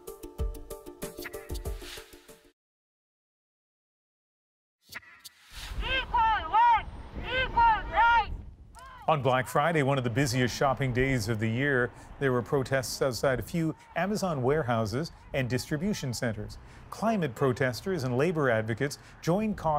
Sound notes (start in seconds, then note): 13.6 chanting